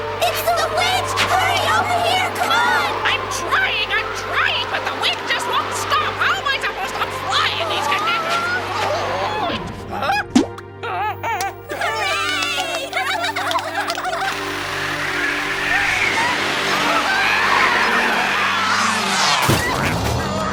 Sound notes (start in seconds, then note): 8.0 gasping; 11.0 witch exclaims; 13.0 giggling; 13.2 wind gushing; 17.2 yelling; 19.4 crash